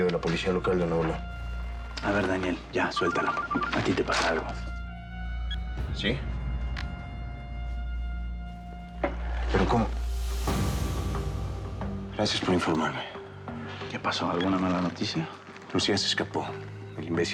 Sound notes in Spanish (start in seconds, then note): 5.3 suena el teléfono